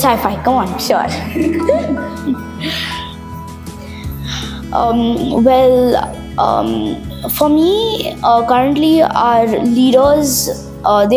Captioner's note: laughs